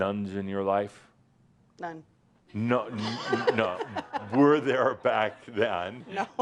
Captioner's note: laughter